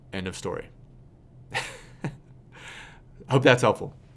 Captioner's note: laughs